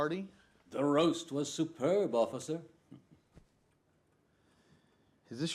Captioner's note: chuckling